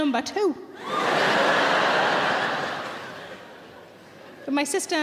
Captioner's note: audience laughs